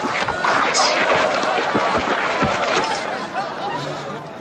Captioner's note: crowd laughs